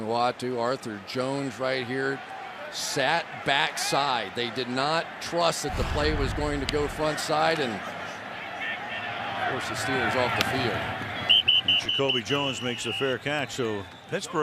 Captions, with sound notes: Ma'ake Kemoeatu, Arthur Jones right here sat backside. They did not trust that the play was going to go front side. And, of course, the Steelers off the field. [whistling] And Jacoby Jones makes the fair catch.